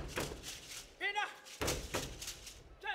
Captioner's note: shouting; hands clapping and beads rattling